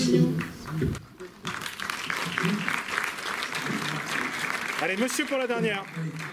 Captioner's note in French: applaudissements